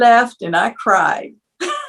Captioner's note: laugh